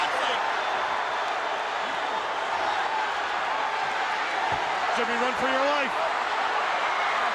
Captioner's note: crowd cheering